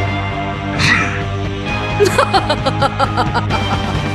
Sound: diamond girl laughing

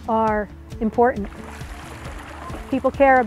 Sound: paddle hitting water

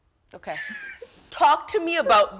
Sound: laughs

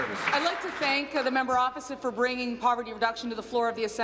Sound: applause

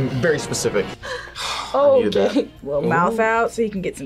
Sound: sighs

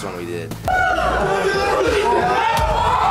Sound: shrieks

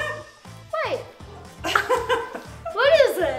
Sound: laughing

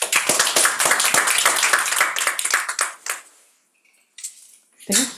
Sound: students applauding

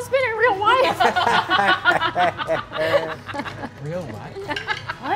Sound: players laughing

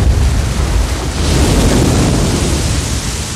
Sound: waves crashing thunderously

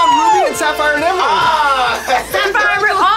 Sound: laughs

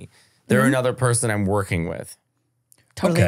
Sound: laughing

